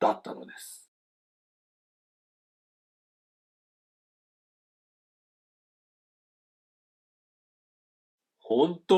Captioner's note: silence